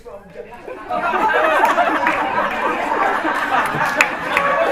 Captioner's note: laughter; laughter drowns out speech